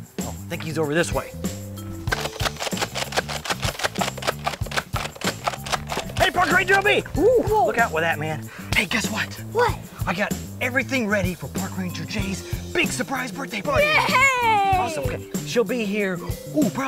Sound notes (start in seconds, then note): 2.0 gun clicking